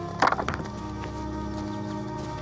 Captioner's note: dropping rock